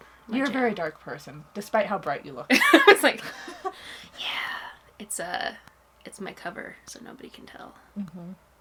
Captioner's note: laughs